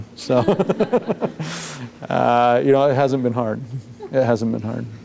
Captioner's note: laughs